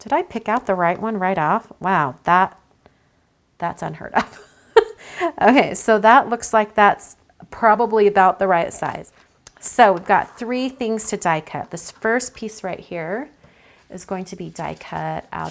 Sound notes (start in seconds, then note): 4.3 laughs